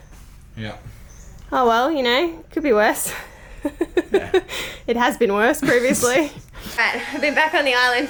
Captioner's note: laughs